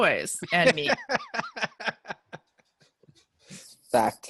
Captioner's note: laughing